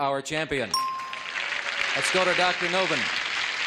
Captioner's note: ding